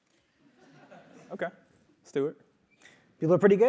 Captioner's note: laugh